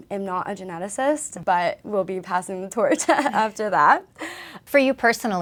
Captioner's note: laughs